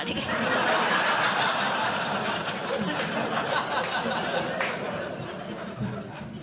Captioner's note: laughter